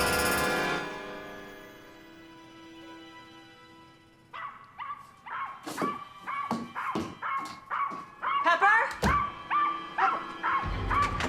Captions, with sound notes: (somber music) (dog barking) - Pepper! (dog barking) Pepper!